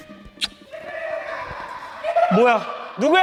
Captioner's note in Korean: 웃음소리